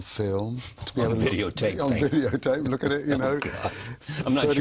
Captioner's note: laughs